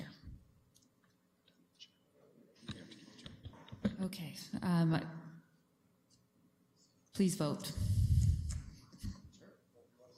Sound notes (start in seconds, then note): 2.0 background chatter